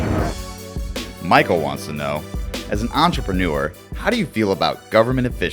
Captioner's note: voiceover